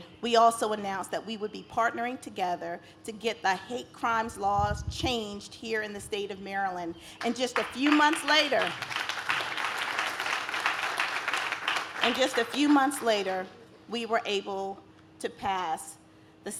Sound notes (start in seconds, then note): 9.3 audience claps